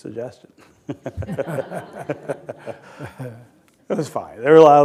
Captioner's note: laughter